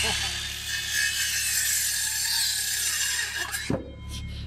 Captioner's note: chuckling; saw cutting board